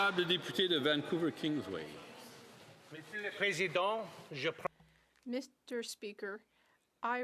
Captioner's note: applause